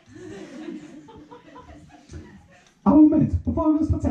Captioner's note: laughter, giggling